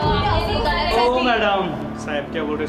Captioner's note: commotion